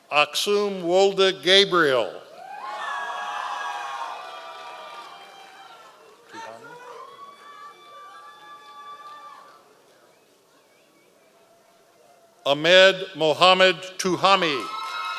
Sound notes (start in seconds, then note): 2.4 members of the audience cheering